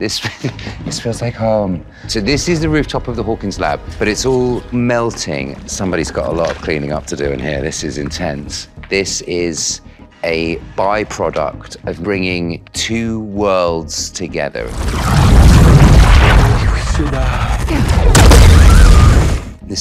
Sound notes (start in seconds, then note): 14.8 thundering; 18.6 fire blasting